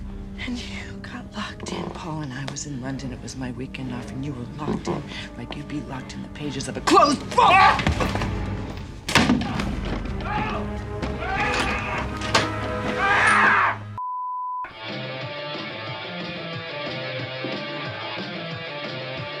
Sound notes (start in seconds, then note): 9.2 Paul screaming; 15.3 loud music playing over radio